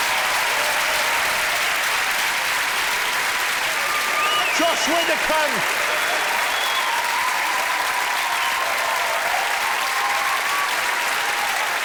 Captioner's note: applause